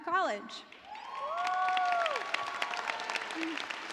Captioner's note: cheers and applause